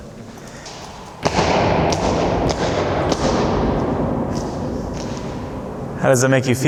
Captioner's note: echoing thumps on the floor